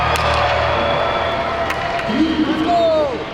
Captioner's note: crowd cheers